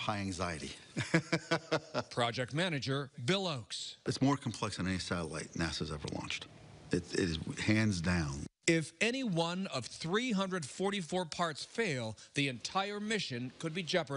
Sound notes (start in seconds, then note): 0.9 laughs